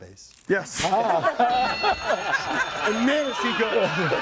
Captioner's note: group laughs